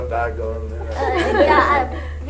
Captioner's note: laughter